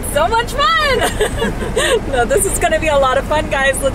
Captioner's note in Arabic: الناس يضحكون